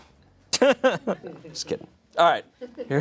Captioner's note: laughs